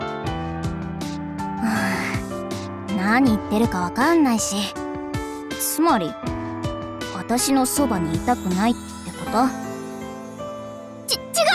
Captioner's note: sigh